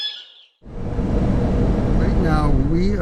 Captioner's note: vehicle engine revving